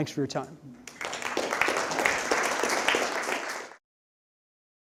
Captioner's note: applause